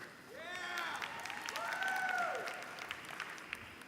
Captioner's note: applause